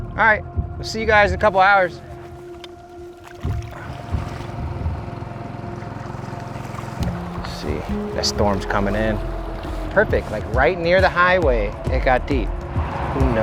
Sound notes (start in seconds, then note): 2.3 suspenseful music; 3.3 water splashes; 4.3 boat engine chugs